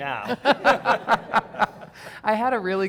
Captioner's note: everyone laughing cheerfully